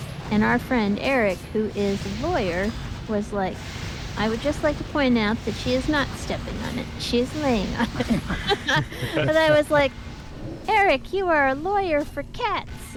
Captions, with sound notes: And our friend Eric, who is a lawyer, was like, "I would just like to point out that she is not stepping on it. She's laying on it." [laughing] And he was like, "Eric, you are a lawyer for cats."